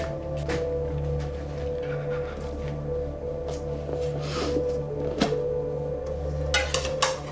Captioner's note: solemn music; Roger sniffling